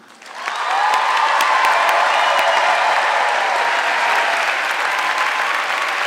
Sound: audience clapping and cheering

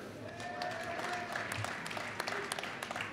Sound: applause

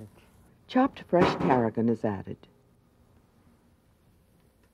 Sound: voiceover

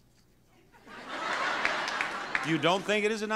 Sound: audience laughs

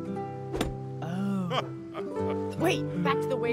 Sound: laughs

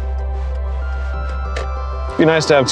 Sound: turn signal clicks

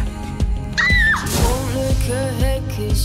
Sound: screams

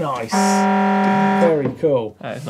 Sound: horn blares

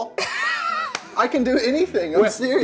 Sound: laughing

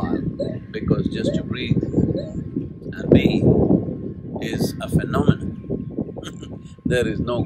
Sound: laughs

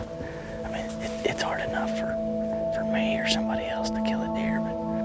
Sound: whispering

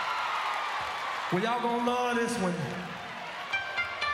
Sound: applause

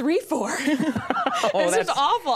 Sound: Conan laughs

